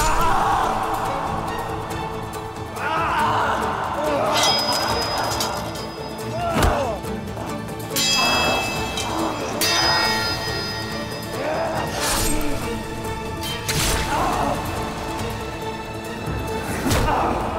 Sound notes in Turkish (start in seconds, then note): 1.4 Dövüş sesleri; 9.4 Müzik - Hareketli